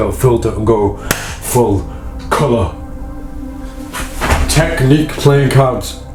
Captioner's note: clap